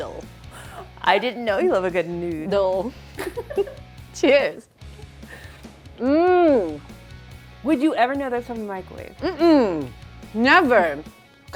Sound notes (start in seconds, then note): 0.0 laughs; 3.1 laughs; 6.0 moans